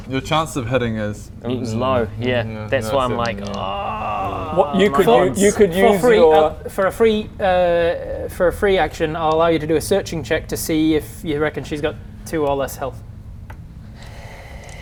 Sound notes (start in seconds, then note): none